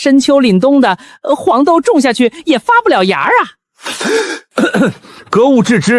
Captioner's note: cough